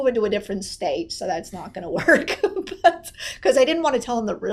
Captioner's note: laughs